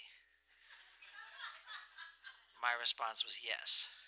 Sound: laughter

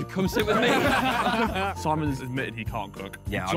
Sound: all laughing

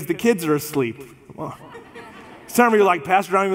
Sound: congregation laughs

